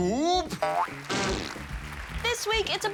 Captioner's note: applause